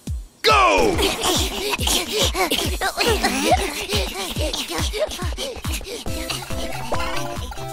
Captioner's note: Panting